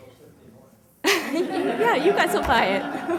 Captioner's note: laughter